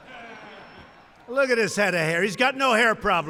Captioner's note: laughter